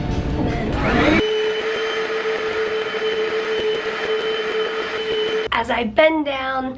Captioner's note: cleaner running